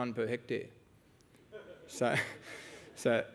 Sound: laughter

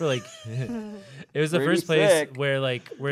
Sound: laughing

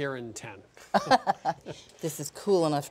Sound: laughs

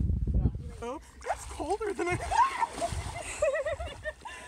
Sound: wind; splash; splashes and screams; giggles

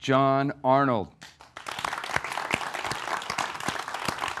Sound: audience applauds

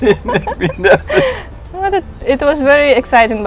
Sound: laughing

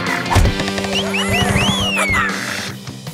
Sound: chirping

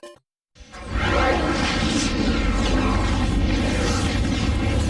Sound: dramatic twister and helicopter sounds

